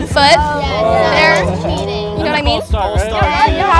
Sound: group exclaiming; group chattering

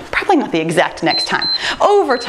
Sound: timer beeps

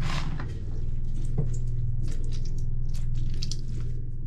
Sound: knife sawing; orange squishing

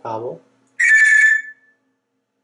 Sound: telephone sound

